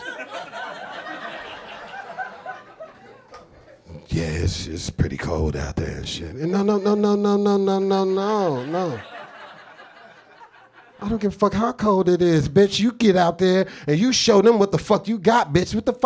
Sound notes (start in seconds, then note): 0.0 audience laughing; 9.1 audience laughing